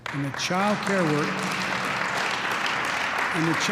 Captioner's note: applause